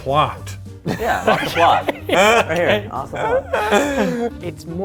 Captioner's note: laughing